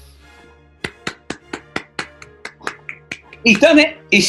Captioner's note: applauding